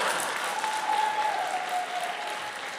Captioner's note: applause